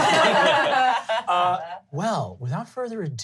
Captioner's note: laughing